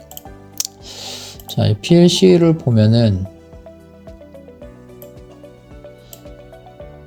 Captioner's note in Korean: 콧방귀